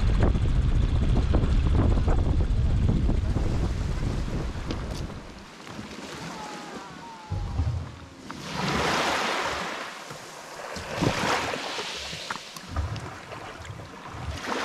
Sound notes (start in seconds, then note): 8.8 waves crashing